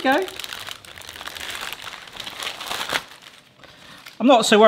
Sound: paper rustling

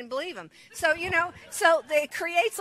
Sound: congregation laughs

